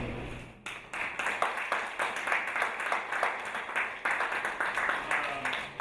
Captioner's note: audience applauding